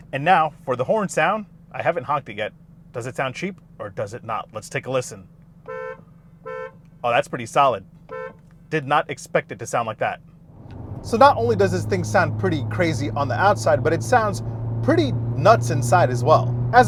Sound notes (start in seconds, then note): 5.8 beeping